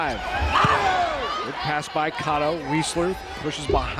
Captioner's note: players yelling